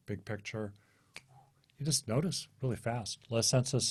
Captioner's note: snaps fingers